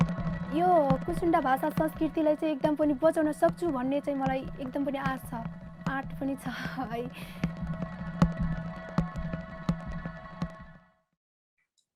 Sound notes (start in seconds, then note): 1.0 speaks in foreign language; 8.2 ethereal music